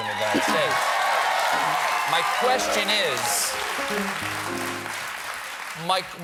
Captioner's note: cheers and applause